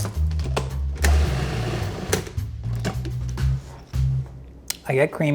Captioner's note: food blending